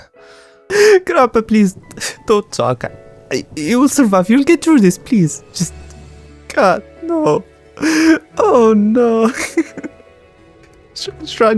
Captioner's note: sobbing